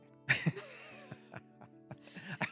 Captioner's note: laughing